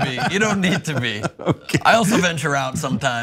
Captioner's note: laugh